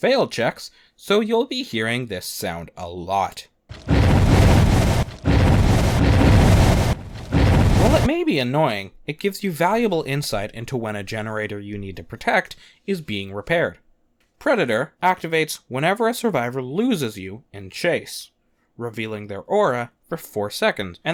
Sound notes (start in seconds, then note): 3.7 sound effect